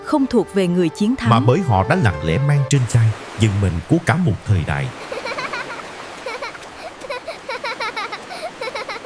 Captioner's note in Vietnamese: tiếng cười